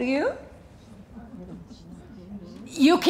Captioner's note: audience whispering